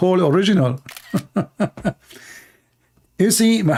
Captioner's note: Ketawa